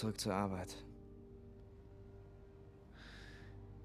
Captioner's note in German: seufzt